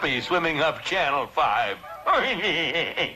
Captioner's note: Mr. Magoo chuckling